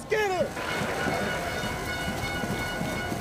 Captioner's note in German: Stadionhupen